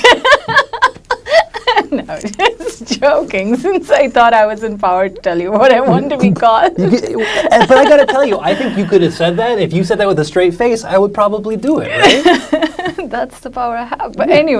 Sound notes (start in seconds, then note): 0.0 laughs loudly; 0.0 laughs; 11.2 laughs